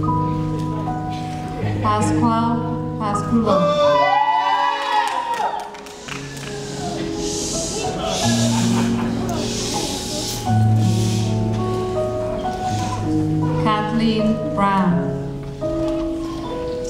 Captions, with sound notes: Pasquale Pascullo. (audience cheering and shooshing) (audience laughing) Kathleen Brown.